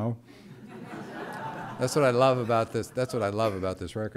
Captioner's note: laughter